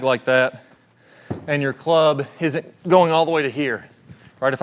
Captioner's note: bag thudding